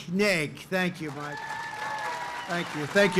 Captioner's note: applause